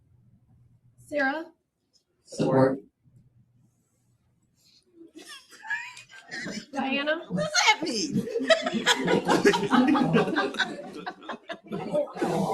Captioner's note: laughter